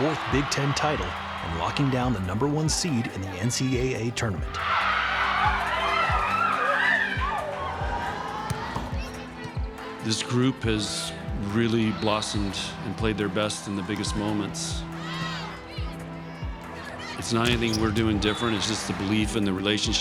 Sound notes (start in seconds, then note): 9.1 team cheering; 14.9 crowd chanting